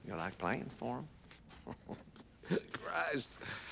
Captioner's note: chuckling